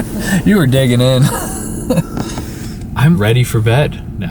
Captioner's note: laughs